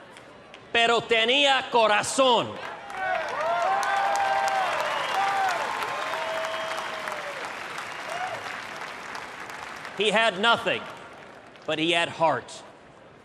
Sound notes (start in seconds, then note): 2.6 applause, cheers